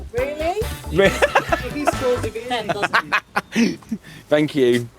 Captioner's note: laughs